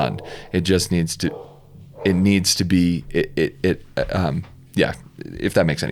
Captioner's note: stammers